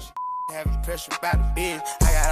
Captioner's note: beep